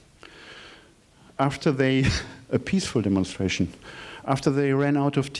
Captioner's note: scoffing